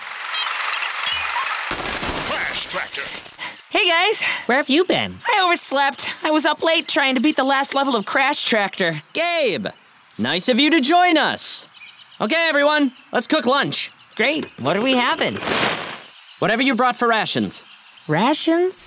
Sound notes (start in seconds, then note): 0.2 beeping; 3.4 panting